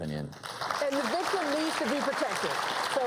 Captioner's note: applause